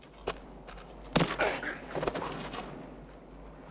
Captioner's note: loud thud